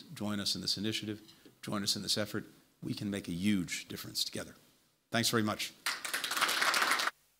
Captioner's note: applause